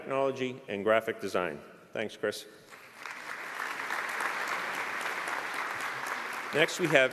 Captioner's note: applause